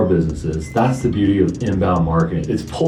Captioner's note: beep